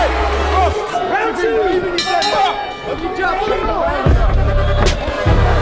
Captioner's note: bell dings